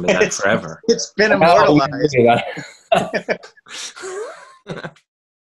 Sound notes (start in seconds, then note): 2.8 laughs